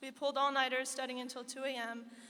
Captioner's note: none